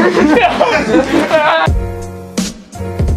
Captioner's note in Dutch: Gelach